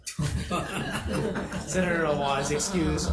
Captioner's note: group laughing